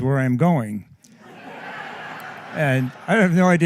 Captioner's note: laughter